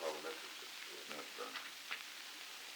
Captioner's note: Murrow, mumbling